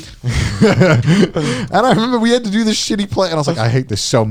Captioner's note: chuckling